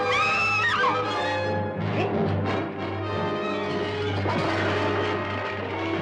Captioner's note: Sheila screaming; dramatic music